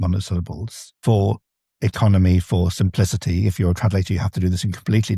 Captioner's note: none